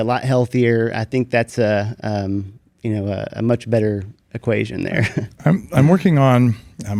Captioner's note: chuckles